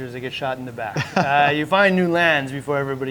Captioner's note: laughing